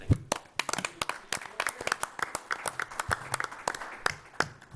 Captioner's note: people applauding